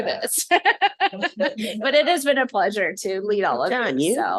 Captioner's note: laughter